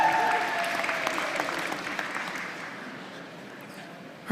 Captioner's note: applause